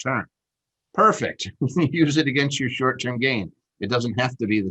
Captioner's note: chuckles